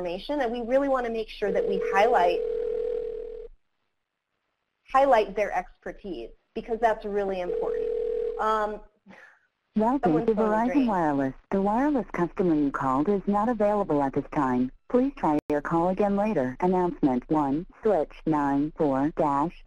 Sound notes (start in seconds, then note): 7.4 telephone ringing; 10.0 recorded Voice